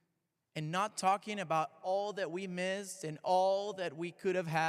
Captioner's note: none